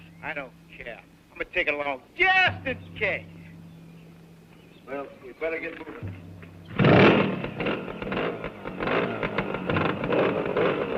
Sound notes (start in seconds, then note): 5.9 engines revving